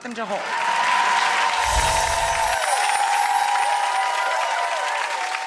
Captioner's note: audience cheering